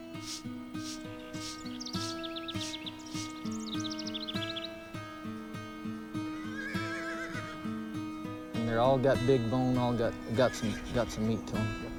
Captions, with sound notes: (birds twittering) (horse neighing) - They all got big bones, all got some meat to 'em.